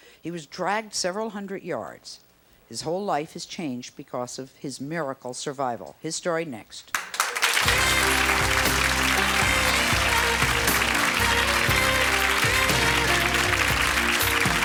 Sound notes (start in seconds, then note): 7.0 audience applauds